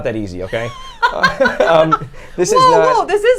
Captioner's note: laughs